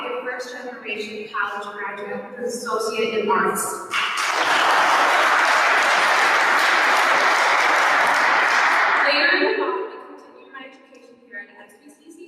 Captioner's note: applause. Inaudible words